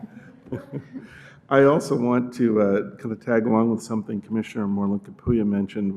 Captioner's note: laughter